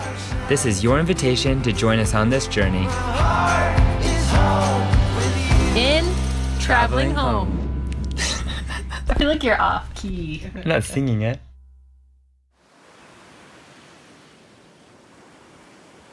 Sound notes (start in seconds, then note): 8.1 laughing; 12.6 waves crashing